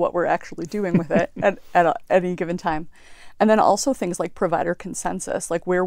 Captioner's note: laugh